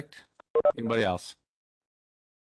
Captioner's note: tone beeping